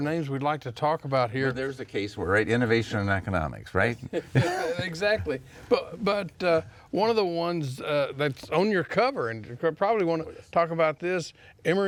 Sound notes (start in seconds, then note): 4.1 laugh